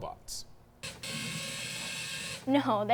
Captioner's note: machine whirring